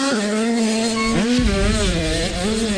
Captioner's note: fast whoosh sfx